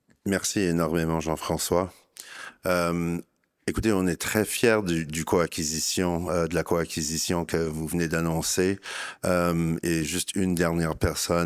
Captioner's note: speaking in French